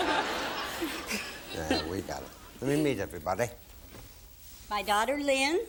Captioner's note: laughter